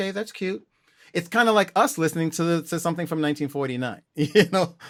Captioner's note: laughter